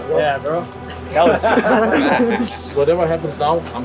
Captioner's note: people laughing